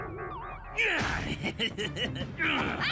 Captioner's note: Mal Grunting; Mal Laughing Evilly